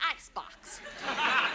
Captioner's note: audience laughs